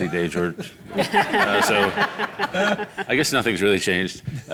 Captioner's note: audience laughing